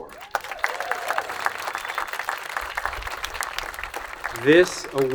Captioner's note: attendees applauding